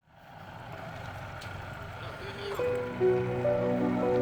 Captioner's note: boat motor rumbling